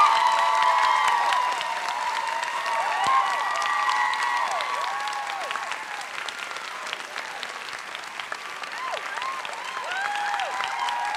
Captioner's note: applause